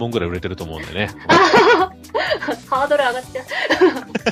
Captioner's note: laughter